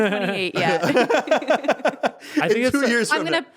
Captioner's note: laughing